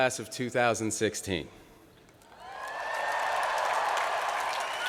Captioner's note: cheering